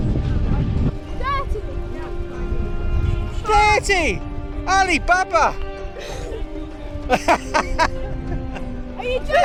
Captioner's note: laughter